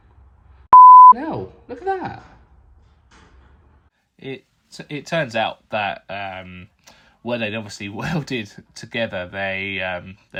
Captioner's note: beep